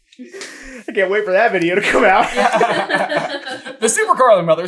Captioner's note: laughter